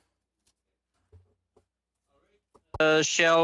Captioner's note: speaking french